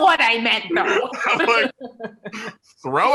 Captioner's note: laughter